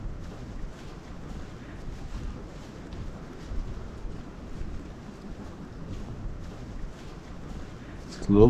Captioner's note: wind